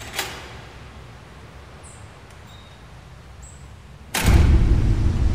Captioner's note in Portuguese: Porta abrindo e batendo